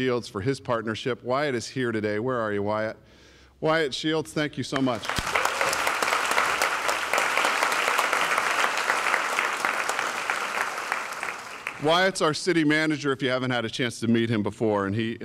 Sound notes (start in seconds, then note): 5.9 applause